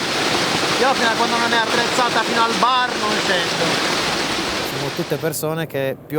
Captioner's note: sarcastically